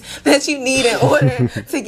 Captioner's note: laughter